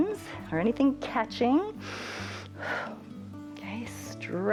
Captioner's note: inhales and exhales